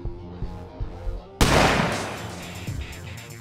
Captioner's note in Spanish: disparo